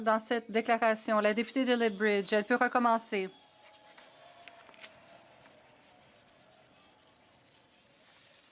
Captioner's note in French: voix de l'interprète